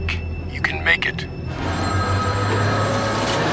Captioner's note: phone rings